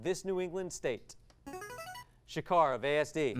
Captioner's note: device sound